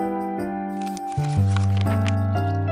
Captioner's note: page rustling